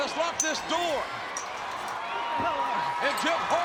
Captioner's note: audience cheering